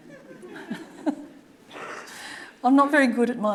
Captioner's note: audience laughing; chuckling